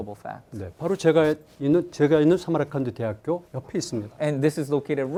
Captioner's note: speaking in Korean